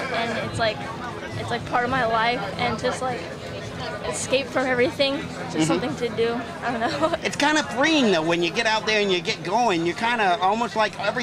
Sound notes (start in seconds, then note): 6.6 giggles